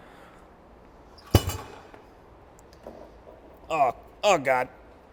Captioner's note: clank